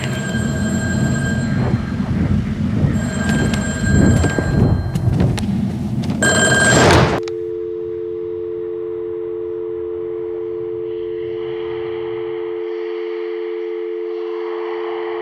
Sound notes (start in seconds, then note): 0.0 wind blowing; 0.3 phone ringing; 3.0 fan whirring; 6.2 phone ringing; 7.2 disconnection tone humming